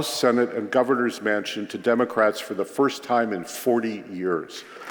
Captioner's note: applause